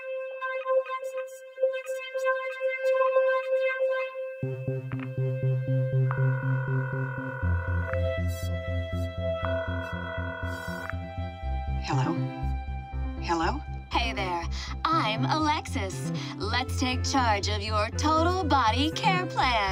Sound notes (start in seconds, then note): 5.4 phone ringing; 11.0 woman on phone; 19.4 woman on phone